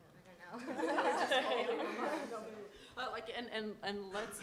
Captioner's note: laughter